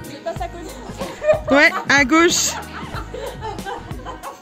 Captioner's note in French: rires